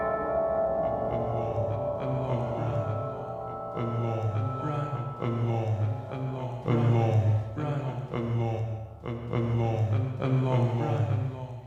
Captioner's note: ”Run along” said in an echo